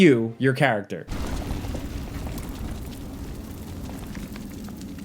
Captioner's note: fire sizzling